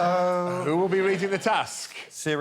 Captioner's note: laughs